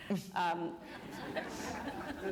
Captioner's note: laughter